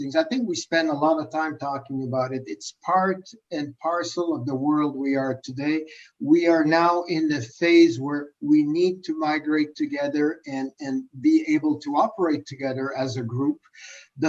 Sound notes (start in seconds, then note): none